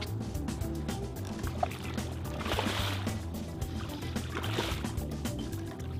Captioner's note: splash